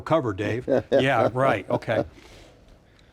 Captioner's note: laughing